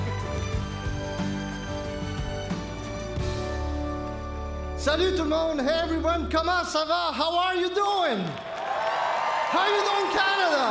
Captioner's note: speaking French